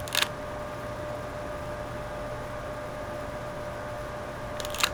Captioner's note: slide Projector SFX